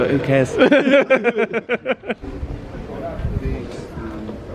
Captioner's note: both laughing